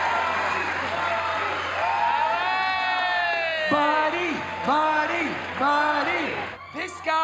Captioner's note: crowd cheers; all chant